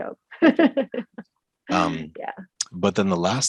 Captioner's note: laughs